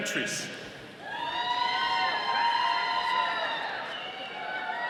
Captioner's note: audience cheering